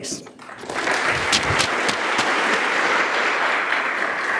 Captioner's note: audience applauding